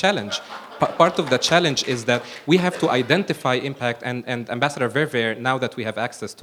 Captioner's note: laughter